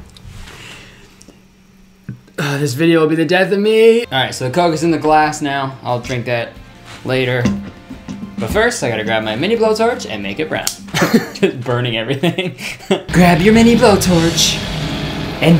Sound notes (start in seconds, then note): 10.6 blowtorch clicking; 10.9 laughing; 13.1 demonic music